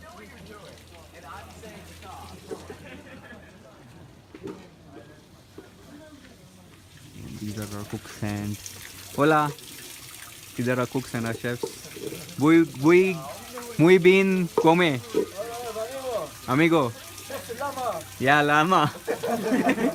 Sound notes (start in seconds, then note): 13.8 trying to speak spanish; 18.8 laughter